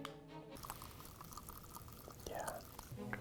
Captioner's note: drink fizzing